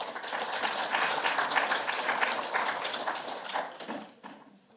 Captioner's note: audience applauds